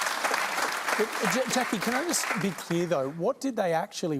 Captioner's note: applause